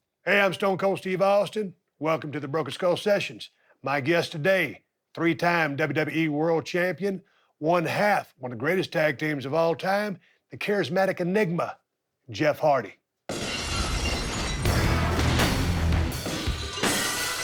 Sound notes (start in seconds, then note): 13.3 glass shatters; 13.3 rock music